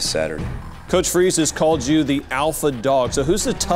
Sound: voiceover

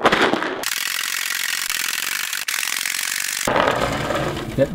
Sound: drilling noise

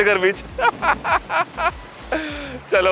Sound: laughter

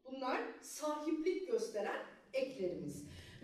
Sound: speaking Turkish

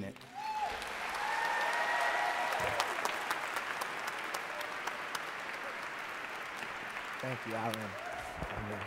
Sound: applause

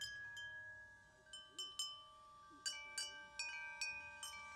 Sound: wind chimes chiming

